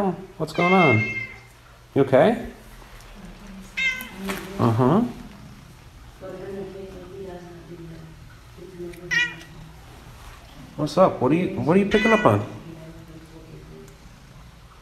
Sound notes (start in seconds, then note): 3.7 cat meows